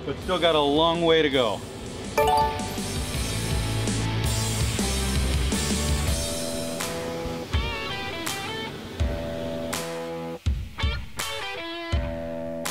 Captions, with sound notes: but still got a long way to go. (upbeat music) (electronic bell ringing)